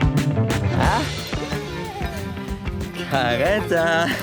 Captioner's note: Karetta whining